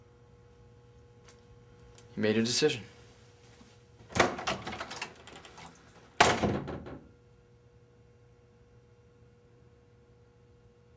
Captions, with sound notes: - You made your decision. (door closes)